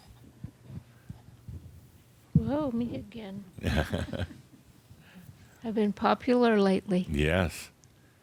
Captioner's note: Adamus chuckles